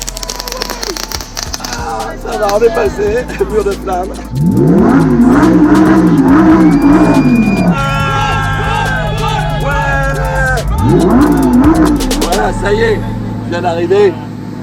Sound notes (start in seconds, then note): 4.3 engine roaring; 7.7 frenzied crowd